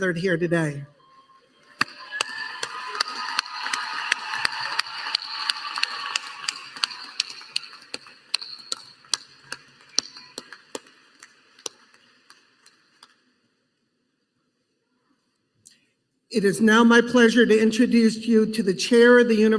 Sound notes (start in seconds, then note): 4.4 applause